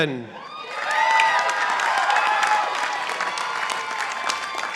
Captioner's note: participants applauding